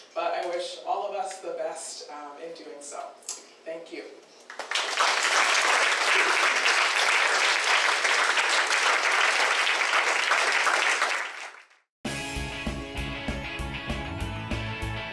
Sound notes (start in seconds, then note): 4.4 applause; 12.1 upbeat music